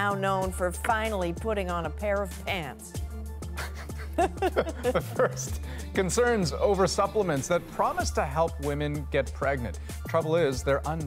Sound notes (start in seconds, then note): 3.6 laughter